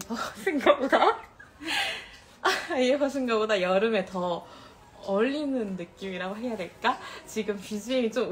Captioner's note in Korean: 웃음